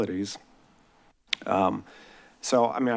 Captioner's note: smacks lips